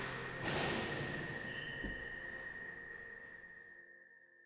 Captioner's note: door slamming